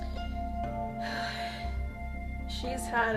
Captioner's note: sighs